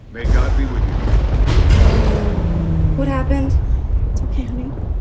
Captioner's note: thunderclap